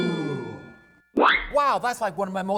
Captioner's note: ding! ding! ding!; whistle!